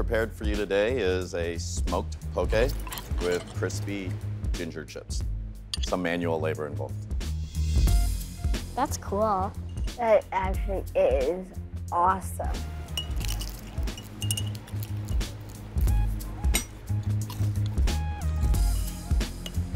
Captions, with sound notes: is a smoked poke with crispy ginger chips. Some manual labor involved. That's cool. That actually is awesome. [fork clinking glass]